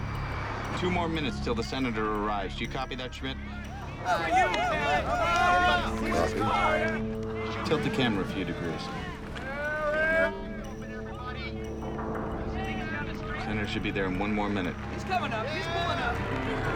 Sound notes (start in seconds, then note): 3.7 cheering